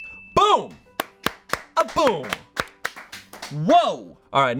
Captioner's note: bell dings; audience applauding